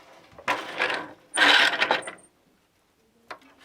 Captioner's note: noise of shuttle moving